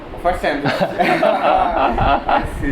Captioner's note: laughing